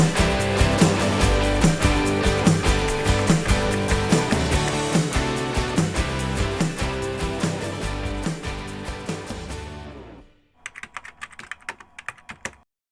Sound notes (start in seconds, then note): 0.0 upbeat music continues; 8.7 keyboard tapping